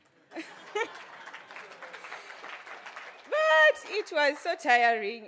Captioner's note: audience claps